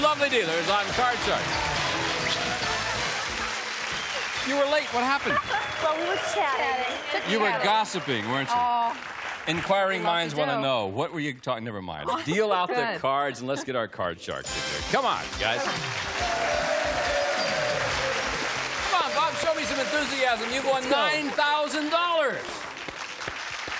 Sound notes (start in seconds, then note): 15.8 cheering, applause